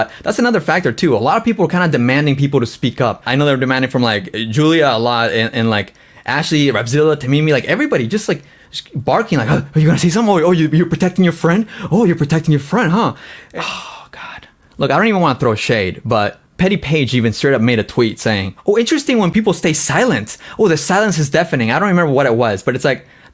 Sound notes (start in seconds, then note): 13.3 sighs